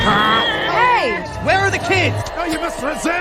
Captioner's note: 💢in anger